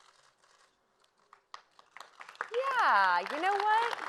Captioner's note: applause